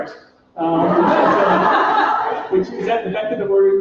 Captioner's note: laughter